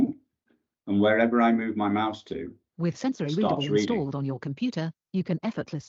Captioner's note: computer speaks